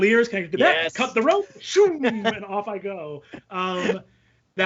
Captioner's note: exclaims